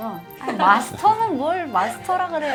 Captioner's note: haha